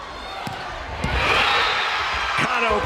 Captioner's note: crowd and players cheering